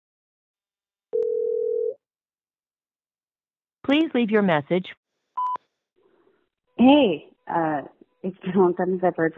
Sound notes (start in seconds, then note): 1.1 phone ringing; 5.4 beeping